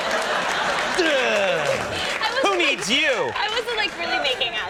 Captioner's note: groans loudly